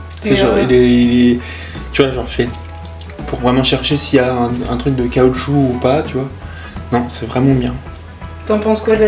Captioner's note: chewing noises